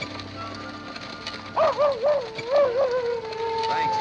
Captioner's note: coyote howling